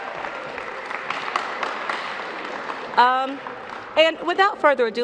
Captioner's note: applause